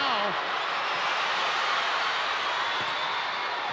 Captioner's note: crowd cheering